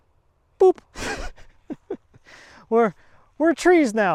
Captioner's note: laughs